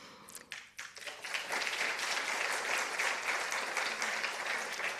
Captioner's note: participants applauding